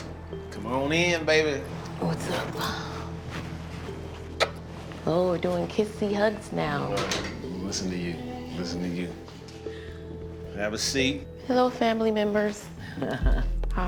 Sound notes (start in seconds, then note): 3.4 smooches